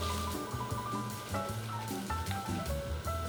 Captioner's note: grating